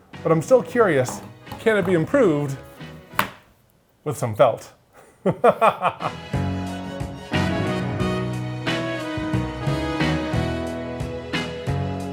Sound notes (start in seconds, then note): 0.9 felt slapping; 5.2 laughs; 6.4 upbeat music